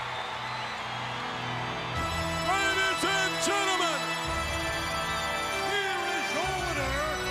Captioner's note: applause